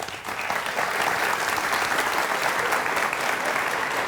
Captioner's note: audience applauding